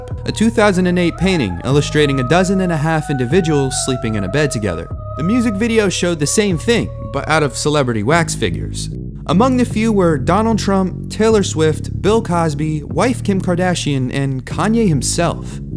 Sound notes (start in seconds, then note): none